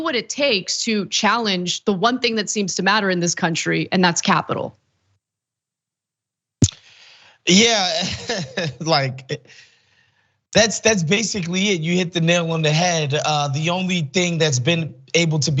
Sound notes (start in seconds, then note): 7.4 laugh